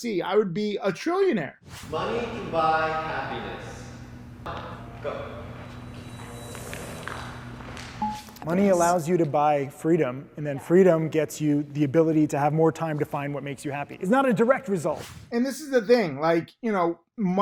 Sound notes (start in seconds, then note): 1.7 air whooshes; 8.0 graphic dings; 14.9 air whooshes